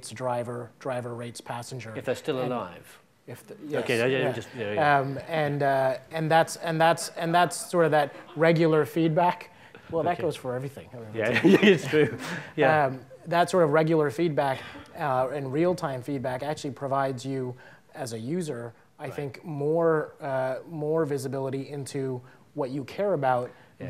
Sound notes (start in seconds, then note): 12.2 laughing softly